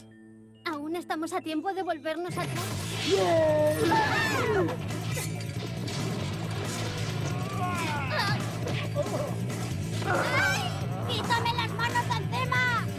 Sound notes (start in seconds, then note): 7.2 growling